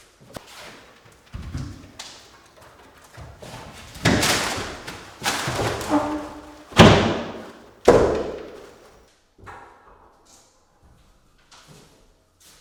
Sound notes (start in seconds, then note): 8.4 jam clanking; 9.2 hitting into place